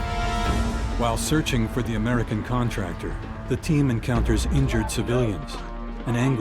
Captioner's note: voiceover